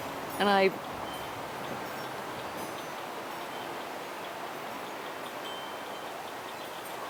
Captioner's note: bell chimes; wind whooshing